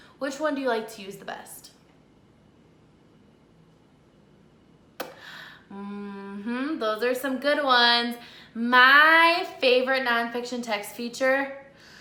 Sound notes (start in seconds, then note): 4.9 poppysmic